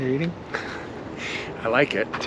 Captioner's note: Paul laughs